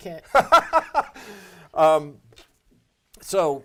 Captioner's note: laughing